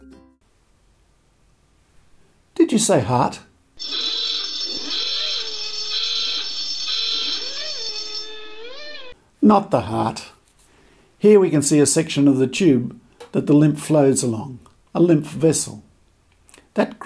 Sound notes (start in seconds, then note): 3.8 noisy klaxon